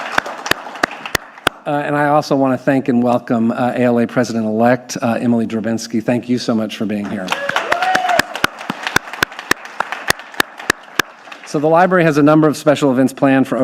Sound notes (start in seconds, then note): 7.2 audience applauding; 7.3 clapping